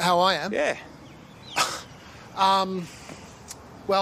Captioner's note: laughs